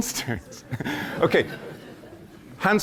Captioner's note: laughter